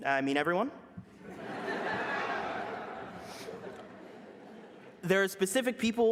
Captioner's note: laughter